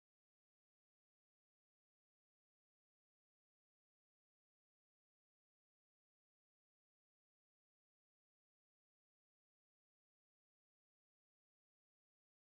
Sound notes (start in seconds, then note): none